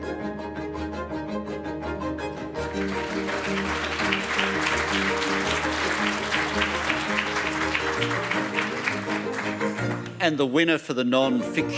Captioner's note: applause